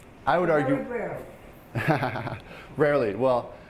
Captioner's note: laughing